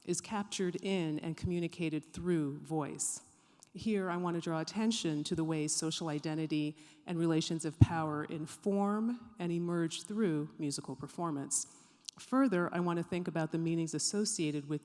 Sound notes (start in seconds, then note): none